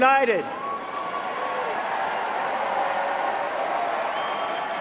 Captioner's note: cheering and applause